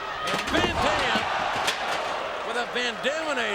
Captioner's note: steel rattling